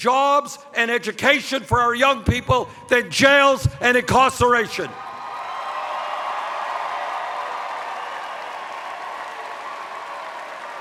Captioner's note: cheers